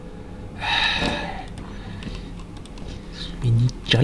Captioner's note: sigh